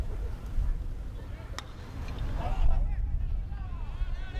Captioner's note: bat cracks